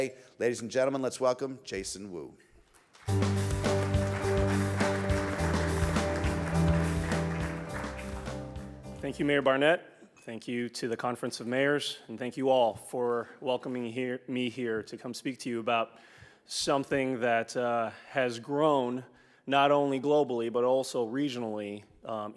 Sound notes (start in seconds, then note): 2.7 audience applauds; 3.0 bright music